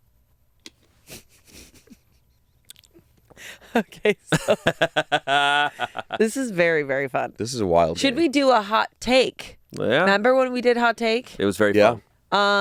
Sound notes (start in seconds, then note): 1.1 chuckles; 3.4 laughing